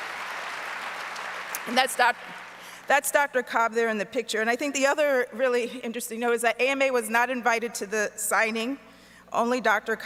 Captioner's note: applause